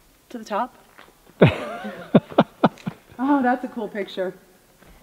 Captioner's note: laughs